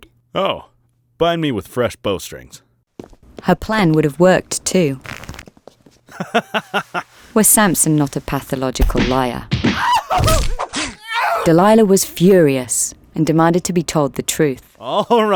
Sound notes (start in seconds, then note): 6.1 Samson laughing; 9.7 people screaming